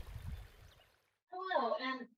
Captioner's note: birds chirping and water running